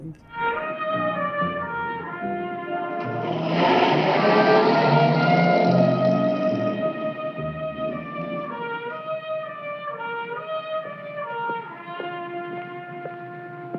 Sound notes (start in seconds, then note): 0.2 dramatic jazz music; 3.1 engine revving